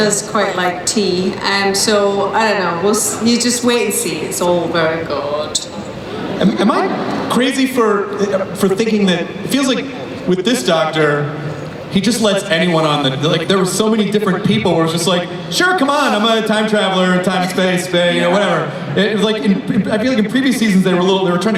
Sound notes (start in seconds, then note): 6.7 voiceover